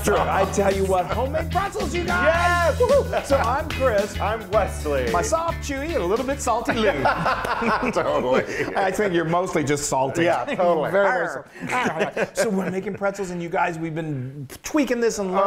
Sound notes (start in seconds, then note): 6.6 laugh; 11.4 laugh